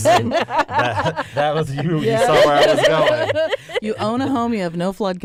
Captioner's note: laughter